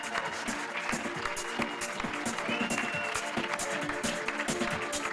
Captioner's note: audience claps